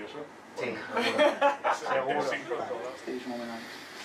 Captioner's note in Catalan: Risas